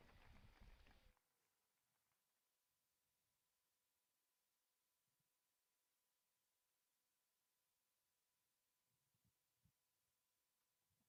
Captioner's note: cheers and applause